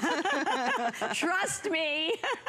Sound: laughter

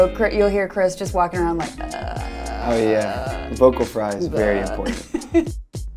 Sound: vocal warmup; vocal fry noises

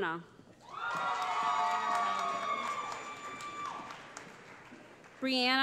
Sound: cheering

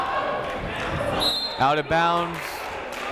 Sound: clapping; shouting

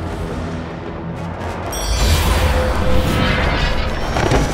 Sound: whooshing sound

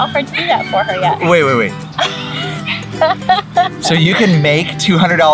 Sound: laughs

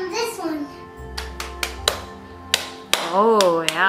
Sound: clapping

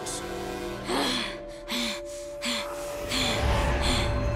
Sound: panting

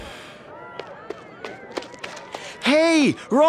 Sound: footsteps

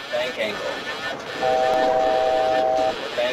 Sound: altitude Alert Chime

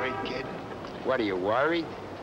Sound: car honks

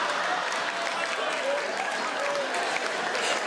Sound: they all laugh; men cheer

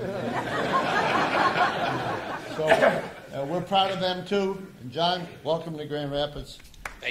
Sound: laughter

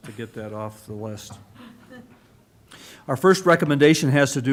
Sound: laughter

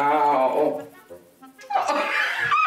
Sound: kisses; laughing

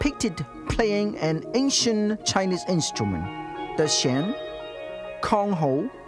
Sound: chinese 00:16:07

